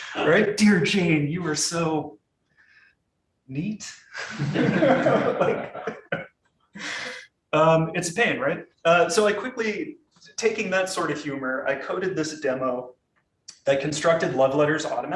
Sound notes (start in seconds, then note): 4.2 audience laughing